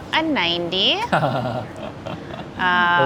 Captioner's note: laughs